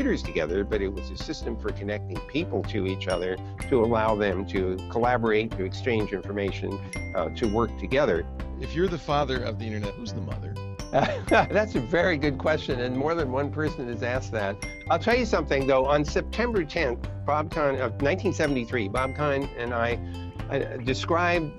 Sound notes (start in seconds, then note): 11.0 laugh